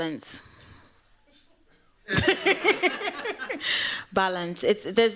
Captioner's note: laughter